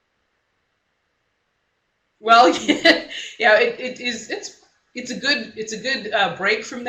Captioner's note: laughs